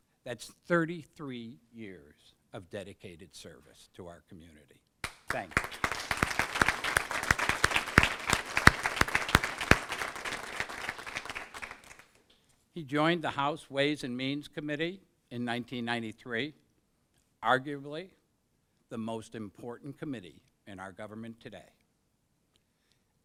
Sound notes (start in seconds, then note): 5.0 applause